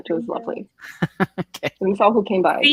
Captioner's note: laughs